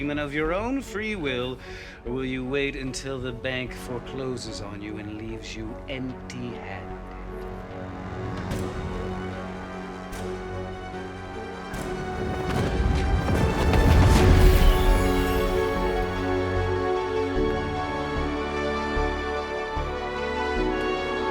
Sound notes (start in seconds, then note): 12.0 music intensifies; 13.6 whooshing